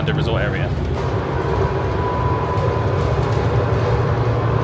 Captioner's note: bus humming